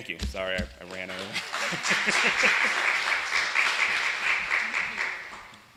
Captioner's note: applause